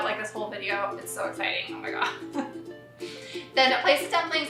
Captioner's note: laughs